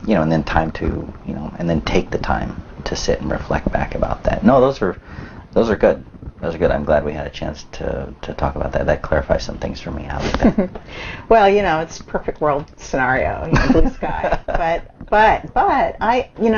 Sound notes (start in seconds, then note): 13.8 laughs